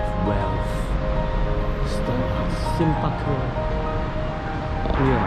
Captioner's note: Chinese language